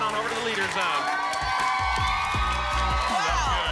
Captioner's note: applause and cheering